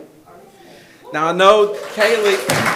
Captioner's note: attendees applauding; attendees cheering